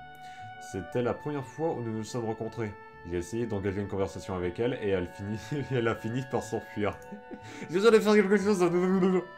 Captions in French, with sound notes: [Rires] « Jedoisallerfairequelquechoseahblbl ! »